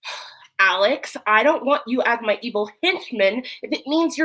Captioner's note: sighs